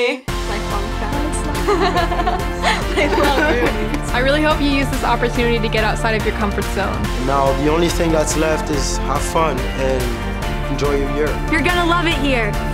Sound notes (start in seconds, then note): 1.6 giggling